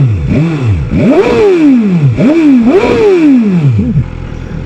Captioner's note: revs in S1000R